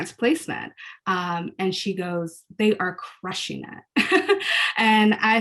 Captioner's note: laughs